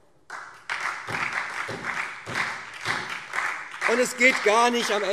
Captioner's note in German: Beifall SPD